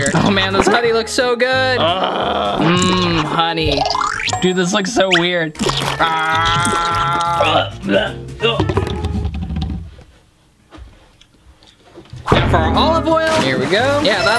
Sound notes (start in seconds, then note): 5.5 squirting; 7.5 gagging; 8.4 cup rumbling